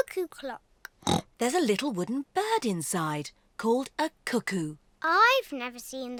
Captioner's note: oinks